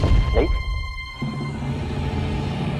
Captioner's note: gulps